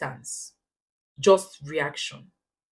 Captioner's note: paause